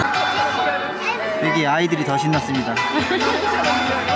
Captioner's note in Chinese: 笑声